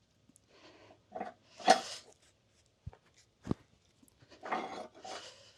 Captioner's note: metal clanking